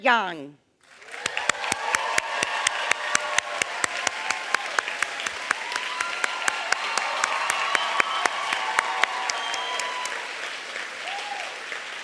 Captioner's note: applause